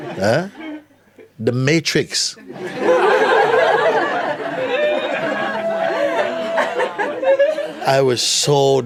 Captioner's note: laughter